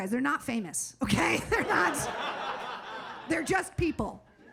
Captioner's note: audience laughing